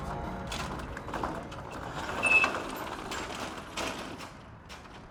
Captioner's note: garage door rolling